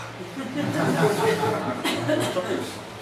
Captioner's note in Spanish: risas